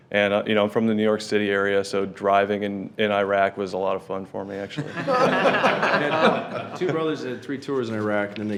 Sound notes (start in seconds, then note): 4.7 attendees laughing